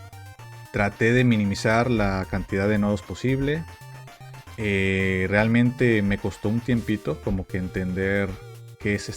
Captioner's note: speaking non-english language